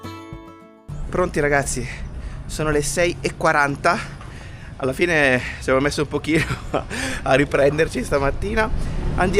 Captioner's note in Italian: risate